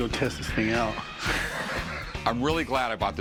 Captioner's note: Rick laughs